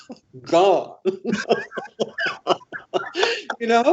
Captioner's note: laughter